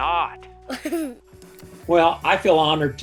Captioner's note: laughs